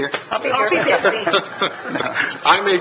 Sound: laughs

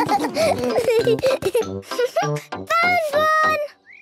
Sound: giggling; snorting and giggling

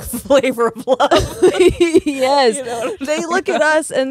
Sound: both laughing

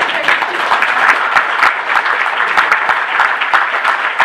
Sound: applause

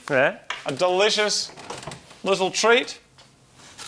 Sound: cupboard groaning; plastic rustling

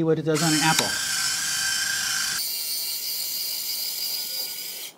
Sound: machine whirring

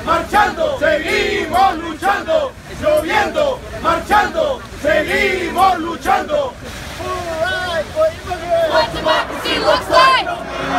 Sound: protest chants

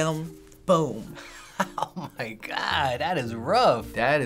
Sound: laughing

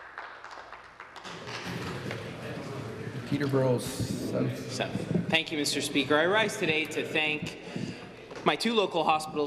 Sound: some Applause

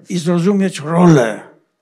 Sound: foreign language

